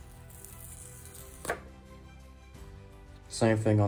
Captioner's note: pull tab rips off of the box